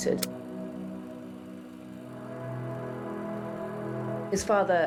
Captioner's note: films reels spinning